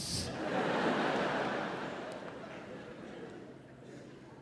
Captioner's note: audience laughs